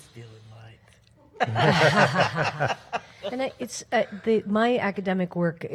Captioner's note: panel laughs